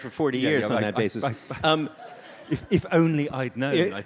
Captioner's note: audience laughs